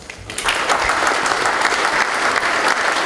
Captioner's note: applause